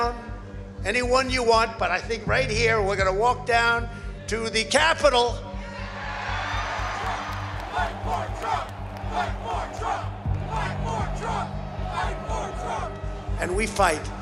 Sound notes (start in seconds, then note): 6.5 cheers and applause; 8.2 crowd chanting